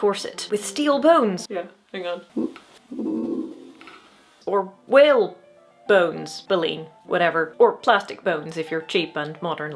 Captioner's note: weird wobbly sound